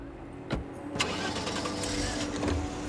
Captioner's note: engine turns on